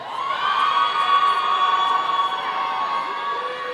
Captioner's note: audience cheering